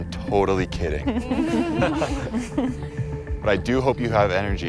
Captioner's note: laughing